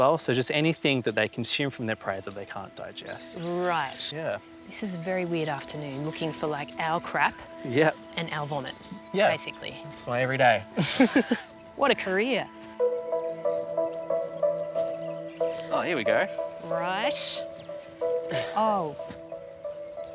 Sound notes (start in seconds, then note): 10.6 laughs